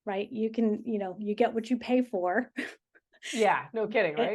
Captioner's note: laughing